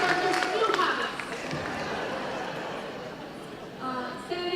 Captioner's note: applause; laughing